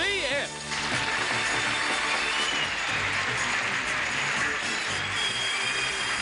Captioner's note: audience clapping and cheering